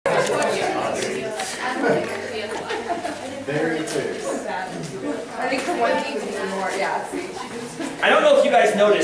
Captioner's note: background Conversation